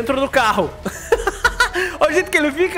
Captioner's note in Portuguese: risos